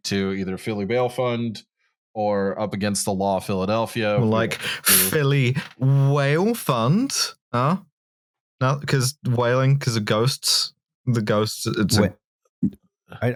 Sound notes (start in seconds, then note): 5.9 wail